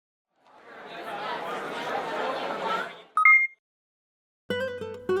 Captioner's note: crowd chatters; bright music